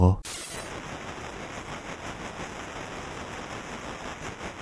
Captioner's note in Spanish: interferencias